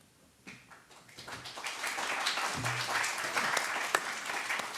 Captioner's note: applause